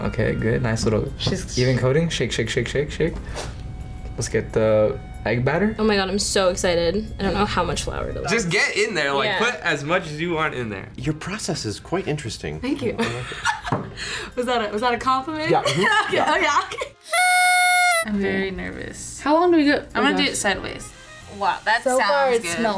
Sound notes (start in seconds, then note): 13.9 laughs; 17.0 party horn blows